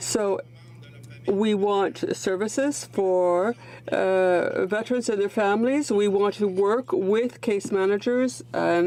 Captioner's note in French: voix de l'interprte